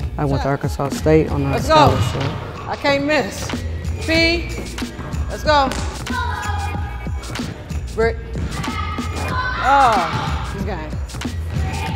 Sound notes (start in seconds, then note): 8.5 exclaims